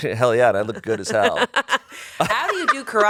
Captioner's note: laughs